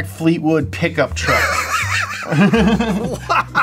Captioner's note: laughs